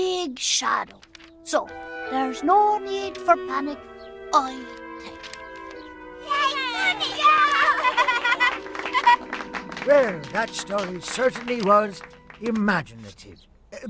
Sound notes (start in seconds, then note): 6.2 cheering and applauding